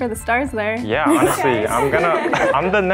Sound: girls laughing

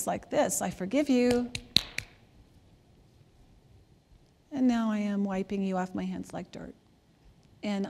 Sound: hands slapping together

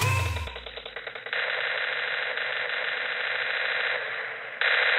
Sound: video game noises

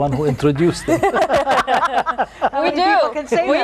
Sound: all laugh

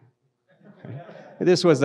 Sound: audience laughs

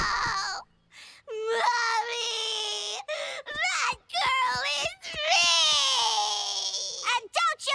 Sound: crying

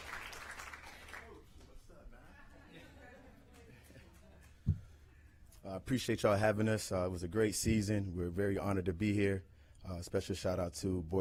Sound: applause

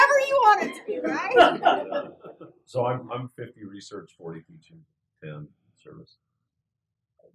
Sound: laugh

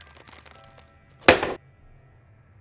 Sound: box falling down

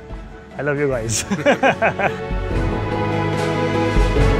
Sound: laughter

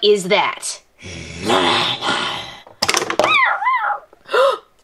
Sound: growls; whimpers

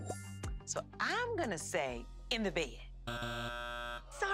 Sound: buzzer buzzes

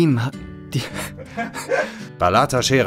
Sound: laughter

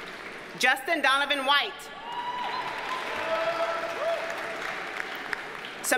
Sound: audience cheers and applauds

